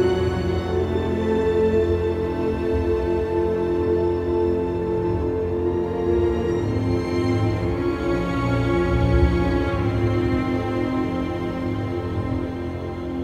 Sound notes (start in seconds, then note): none